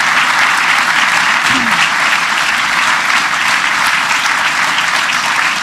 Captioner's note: applause